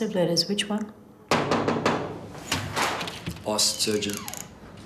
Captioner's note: knocking